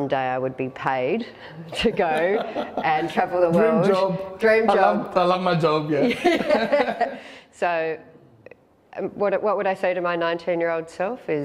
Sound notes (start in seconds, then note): 6.0 laughter